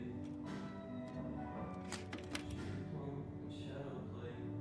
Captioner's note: safe clicking